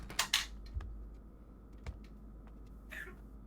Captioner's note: gun clanking